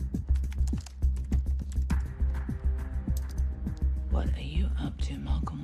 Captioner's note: typing